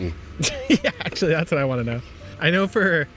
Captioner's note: chuckles